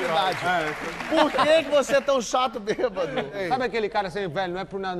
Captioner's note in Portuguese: aplausos; risos